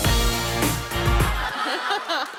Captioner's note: cheers and applause; laughter